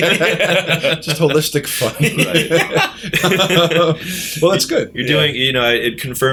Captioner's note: laughter